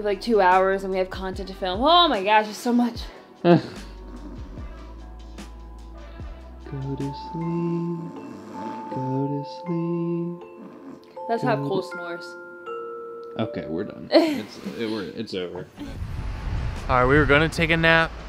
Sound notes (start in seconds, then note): 7.1 singing; 9.7 pretends to snore loudly